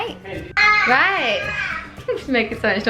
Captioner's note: baby fussing